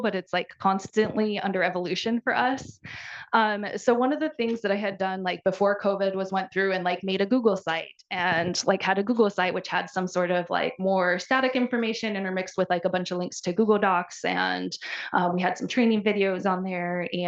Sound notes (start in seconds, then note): none